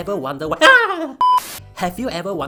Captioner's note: Chicken’s cries